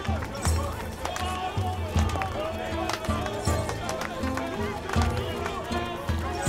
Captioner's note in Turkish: Alkış sesleri